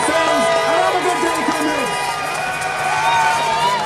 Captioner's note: cheers